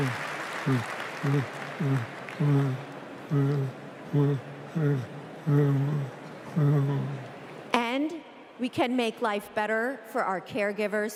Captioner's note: applause